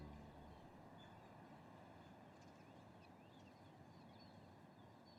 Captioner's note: birds chirping